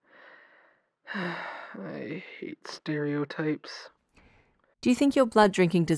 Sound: distressed sigh

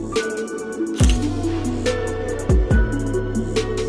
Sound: camera shutter clicks

